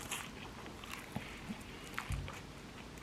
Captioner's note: nom nom